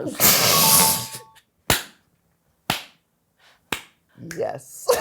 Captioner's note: chuckles; clapping hands